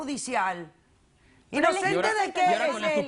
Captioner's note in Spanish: Hablan al unísono